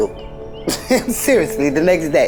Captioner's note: laughs